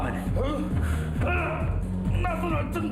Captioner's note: man grunts